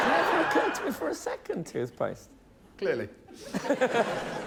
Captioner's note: laughter